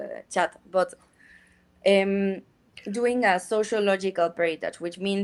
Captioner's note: speaks in Spanish